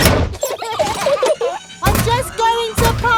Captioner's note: children giggling